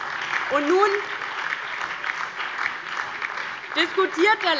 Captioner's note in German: Beifall DIE LINKE, BÜNDNIS 90/DIE GRÜNEN und SPD